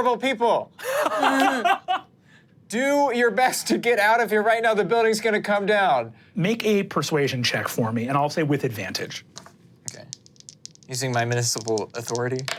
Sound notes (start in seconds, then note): 0.8 laughs; 9.8 dice rolling